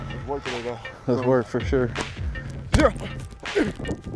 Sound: grunting

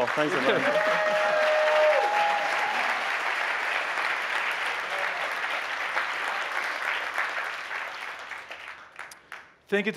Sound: applause

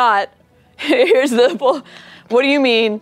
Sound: laughing

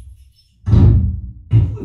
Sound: door slams downstairs; wall being punched

